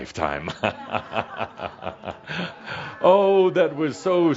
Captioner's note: Adamus chuckles